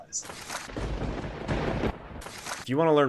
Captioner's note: thunder rumbling